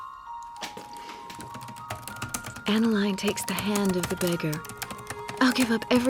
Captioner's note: typing resumes